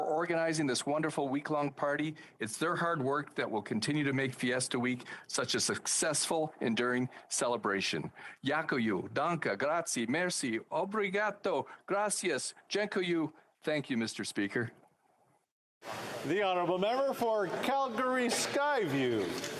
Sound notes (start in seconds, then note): 15.7 speaking alternate languages